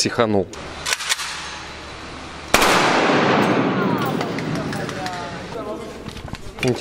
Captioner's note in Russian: Звук затвора. Выстрелы